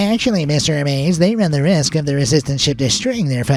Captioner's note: in a nerdy voice